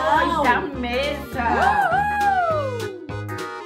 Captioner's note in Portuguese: Gritos de Comemoração; Música ao fundo